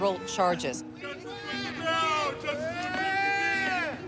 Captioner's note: people shout